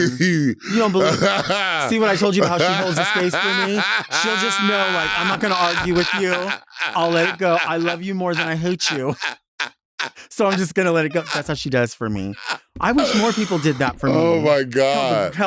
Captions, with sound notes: You don't believe that? See what I told you about how she holds the space for me. She'll just know, like, I'm not gonna argue with you. I'll let it go. I love you more than I hate you. (laughing) So I'm just gonna let it go. That's what she does for me. I wish more people did that for me- - Oh my God.